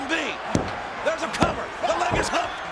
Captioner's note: hand pounding